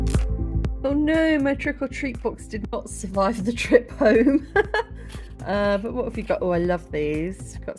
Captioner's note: laughing